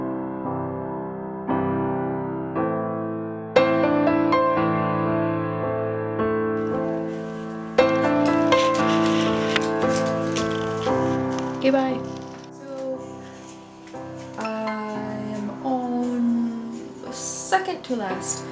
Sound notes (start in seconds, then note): 7.6 sound of dog toes clipping out the door